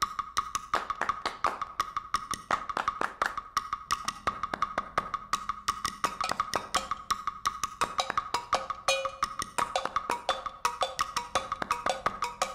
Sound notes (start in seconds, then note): 0.6 clap, clap, clap, clap; 3.5 click of drumsticks and clapping recorded and playing back on a loop; 7.6 clang, clang of cow bell